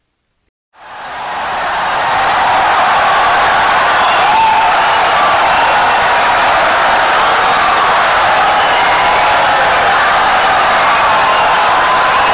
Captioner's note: wild applause and cheering for 17 seconds